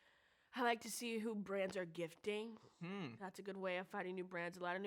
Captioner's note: none